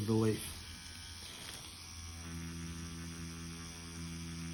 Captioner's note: machine whirring